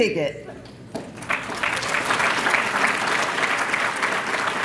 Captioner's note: applause